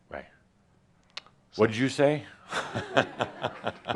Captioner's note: Adamus chuckles